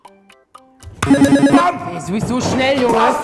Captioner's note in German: Buzzer